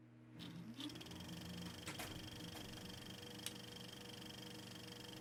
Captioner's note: movie projector clicking